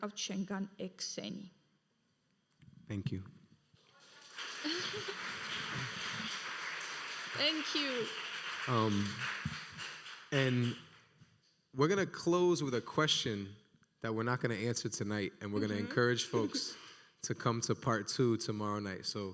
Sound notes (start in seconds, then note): 3.9 audience applauding; 4.6 laughing